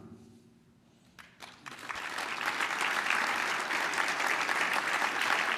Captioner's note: applause